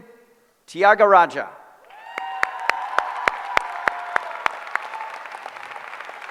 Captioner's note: applause